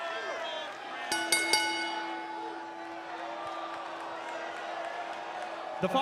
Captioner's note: bell ringing